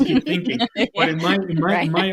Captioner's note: laughing